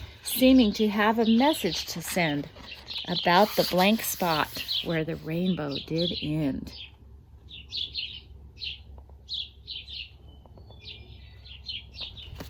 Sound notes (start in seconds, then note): 7.3 birds chirping